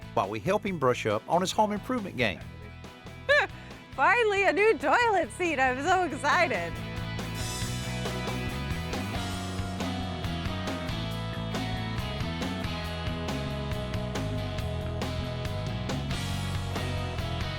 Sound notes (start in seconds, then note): 3.1 exclaims; 6.8 theme music playing